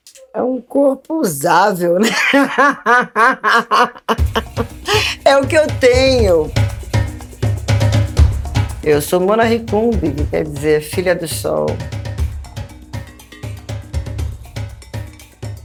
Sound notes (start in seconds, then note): 2.0 laughs; 6.8 drum beats; 11.9 drum beats